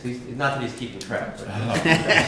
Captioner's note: laughter